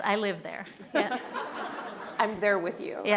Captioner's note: laughing